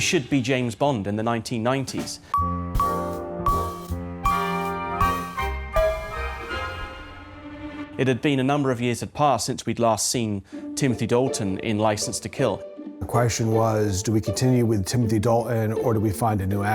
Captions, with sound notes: Who should be James Bond in the 1990s? -[DINGING] -[JAZZY MUSIC PLAYS] It had been a number of years had passed since we'd last seen Timothy Dalton in License to Kill. The question was, do we continue with Timothy Dalton,